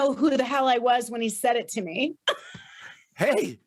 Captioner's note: laughs